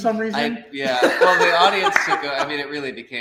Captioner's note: laughs